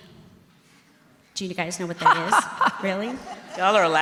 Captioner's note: laughing